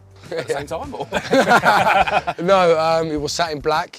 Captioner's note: laughter